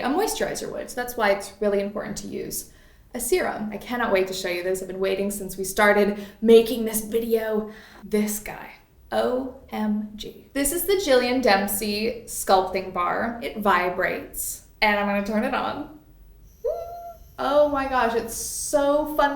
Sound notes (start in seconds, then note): 16.4 Sculpting Bar buzzes; 16.4 squeals